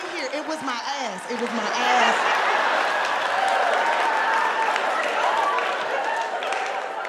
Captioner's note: audience cheering